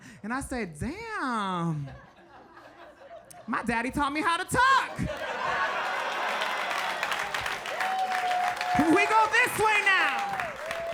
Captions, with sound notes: And I said, "Damn." My daddy taught me how to tuck. (audience applauding and laughing) We go this way now.